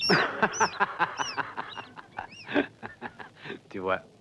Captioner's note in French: jordani rire; une souris crie